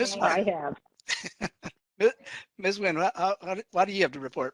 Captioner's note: laughing